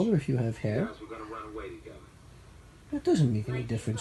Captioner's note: background television